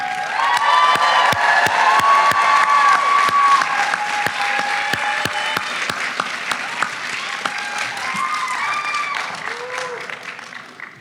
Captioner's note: applause